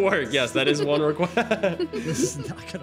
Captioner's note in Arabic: يضحك